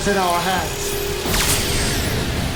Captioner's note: energy burst